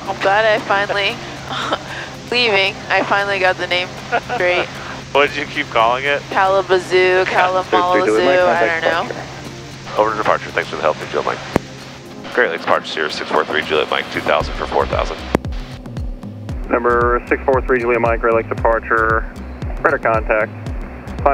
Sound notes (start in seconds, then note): 10.1 over Headset